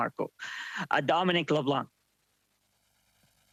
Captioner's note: speaking French